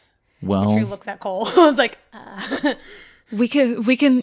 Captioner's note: chuckles nervously